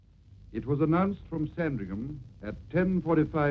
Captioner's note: radio Announcer